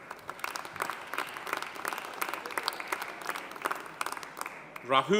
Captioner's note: audience applauding